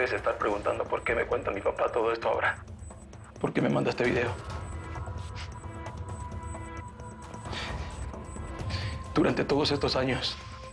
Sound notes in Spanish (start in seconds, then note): 8.1 Sollozos